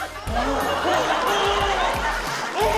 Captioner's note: groans; groans in frustration